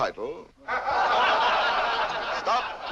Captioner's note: laughter